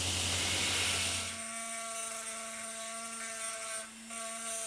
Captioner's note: grinding sound